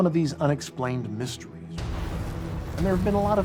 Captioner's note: explosion